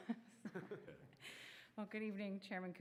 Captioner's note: laughing